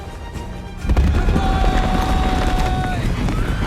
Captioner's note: yelling continues